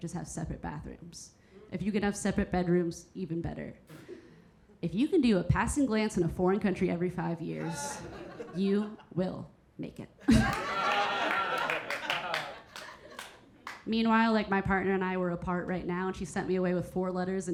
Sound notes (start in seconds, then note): 7.6 audience members laughing; 10.2 Keira chuckling; 10.2 audience laughing; 10.4 audience applauding